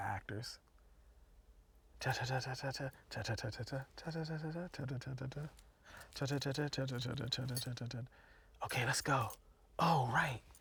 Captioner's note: humming